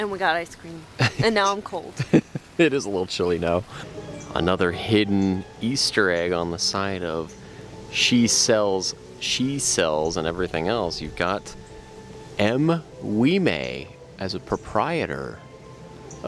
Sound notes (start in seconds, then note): 1.9 laughing